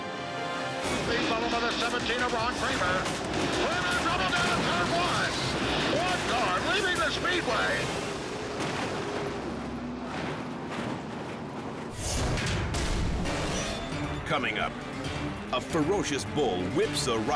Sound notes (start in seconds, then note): 0.0 dramatic music; 8.2 car thuds; 12.0 metal thuds